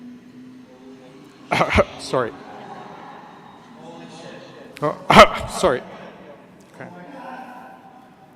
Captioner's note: aaahhhhhh